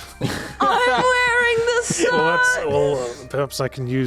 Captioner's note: chuckling and repeating